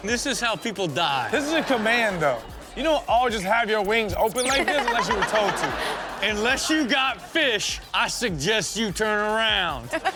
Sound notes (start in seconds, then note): 1.4 audience laughs; 4.5 audience laughs; 9.8 audience laughs